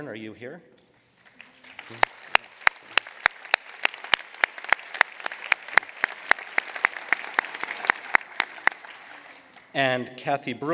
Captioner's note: applause